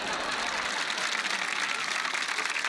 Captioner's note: cheering, applause